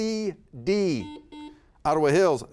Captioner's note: buzzer beeping